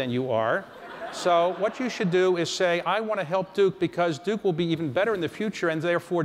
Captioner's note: laughter